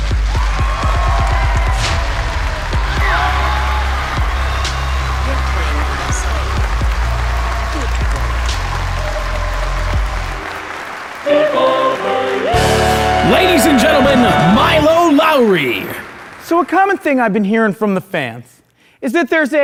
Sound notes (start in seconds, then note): 0.5 shouting; 6.6 applause; 12.5 applause